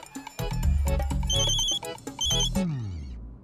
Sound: phone ringing

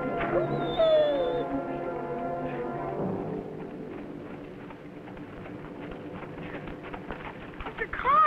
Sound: dog whining

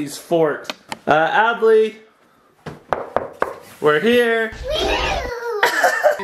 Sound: door knocking; laughing

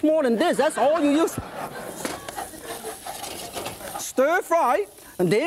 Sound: audience laughs

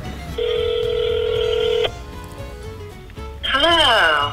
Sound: phone ringing

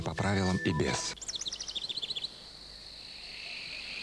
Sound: birdsong; grasshoppers chirping

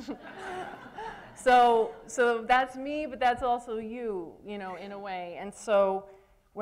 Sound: laughter

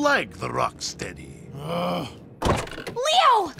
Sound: grunting

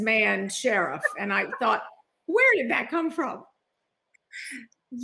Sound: laughing

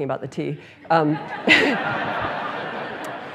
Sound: laughter

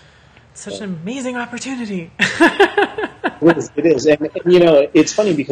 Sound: laughs

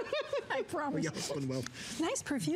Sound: laughter

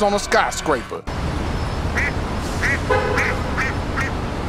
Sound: bird chirps

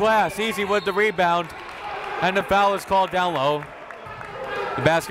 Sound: whistle

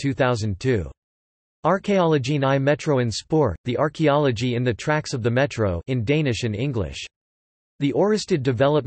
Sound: in Danish and English

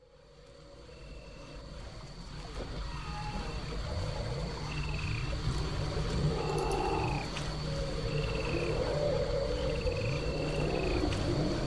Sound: dark swamp ambience

